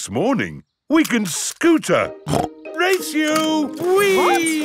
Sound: snorts

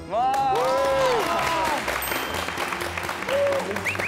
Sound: cheers and applause

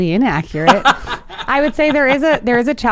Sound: laughing

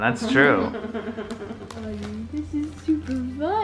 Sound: laughs

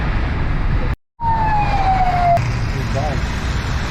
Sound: ambulance beep beep

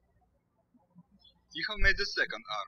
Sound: birds chirping

